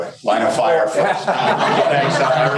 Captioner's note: crowd laughs